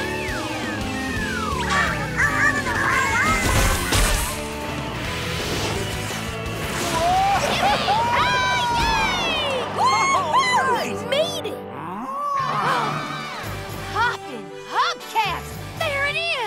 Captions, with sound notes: [squeaking] -Whoa! -Yippie kay yay! -Woo hoo! -All right! We made it! [mooing] Hoppin' hubcaps, there it is!